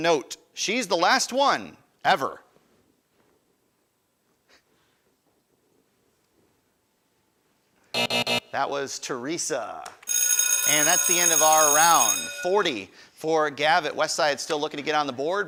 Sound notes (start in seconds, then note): 7.9 buzzer buzzing; 10.0 bell ringing